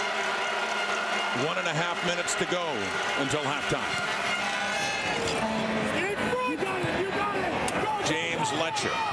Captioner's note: crowd Noise